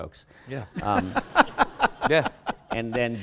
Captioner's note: laughter